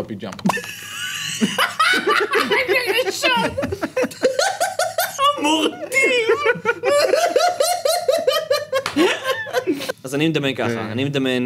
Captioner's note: laughs; more laughs